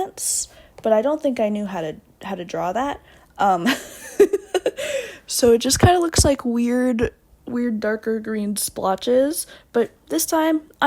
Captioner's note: laughs